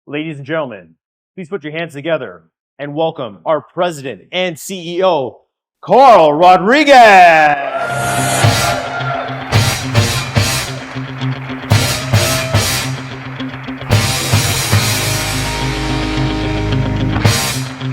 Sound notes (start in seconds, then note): 7.8 audience applauding